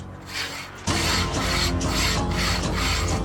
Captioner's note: bowls scraping table